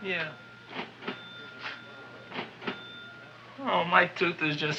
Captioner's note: cash register chiming rapidly